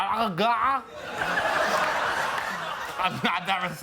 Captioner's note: laughter